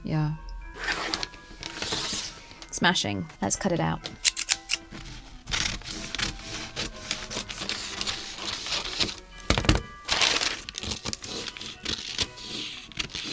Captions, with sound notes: Yeah. [pencil scratches] Smashing. Let’s cut it out [exaggerated ‘snip snip’ from scissors] [scissors snipping]